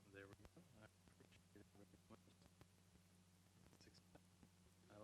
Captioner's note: stuttering audio